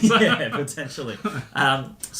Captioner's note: laughing